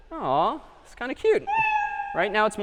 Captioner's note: meow